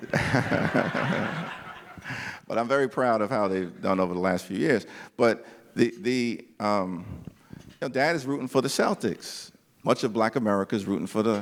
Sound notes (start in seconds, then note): 1.8 laughter